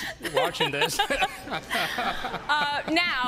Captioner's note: laughter